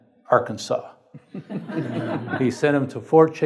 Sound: audience laughs

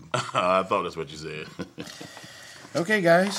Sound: chuckles

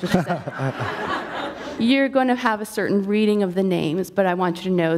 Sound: laughter

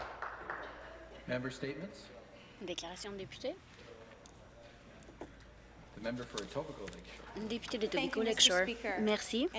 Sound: applause

